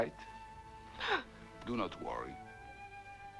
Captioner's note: Hundra gasps